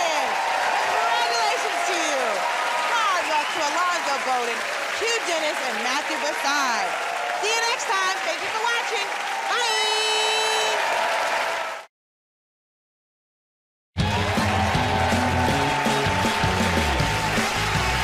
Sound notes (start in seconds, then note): 14.0 cheers and applause